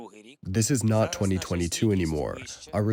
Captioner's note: through translator